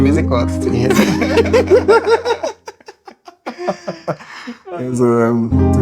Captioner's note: laughs